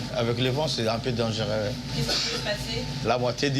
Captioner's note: captain speaking foreign language; woman speaking foreign language